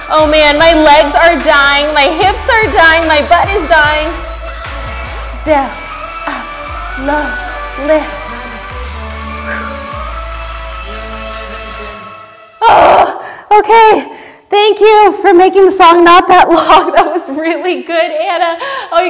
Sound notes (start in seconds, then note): 8.4 exhales sharply; 12.7 groans